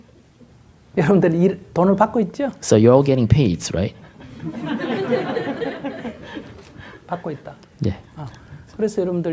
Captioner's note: audience Laughter